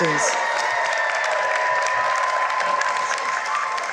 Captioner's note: cheering and applause